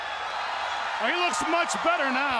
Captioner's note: audience cheers